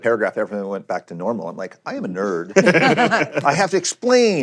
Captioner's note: laughter